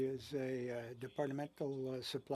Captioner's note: speaking French